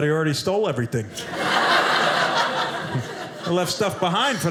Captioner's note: audience laughing